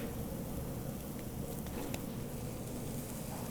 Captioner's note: low sizzling